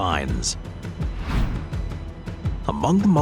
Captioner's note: screen whooshing